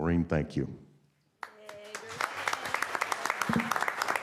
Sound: applause

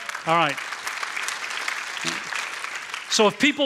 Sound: applause

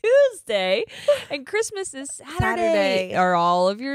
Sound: both laughing

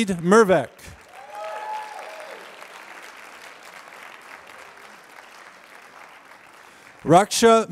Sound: applause

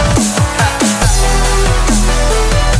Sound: echoes

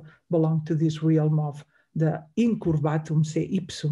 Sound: speaks in Greek

